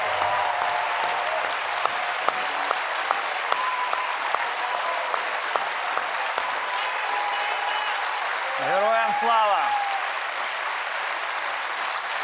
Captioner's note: cheering